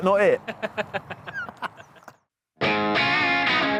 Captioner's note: laughing; energetic music